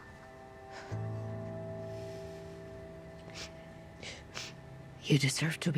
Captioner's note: sighs; sniffles